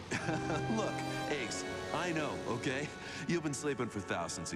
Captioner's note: laughs